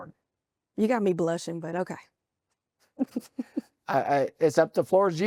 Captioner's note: chuckles